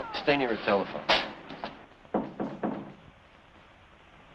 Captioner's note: knocking on door